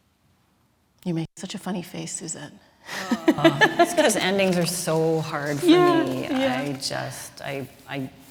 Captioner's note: laughs